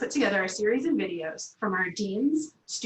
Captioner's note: Arabic; Vietnamese